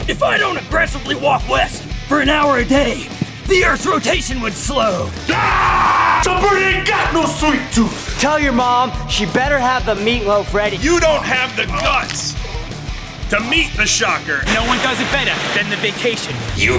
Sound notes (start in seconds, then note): 3.4 yells